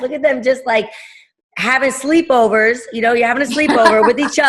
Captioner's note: laughing